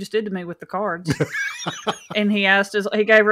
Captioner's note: laughs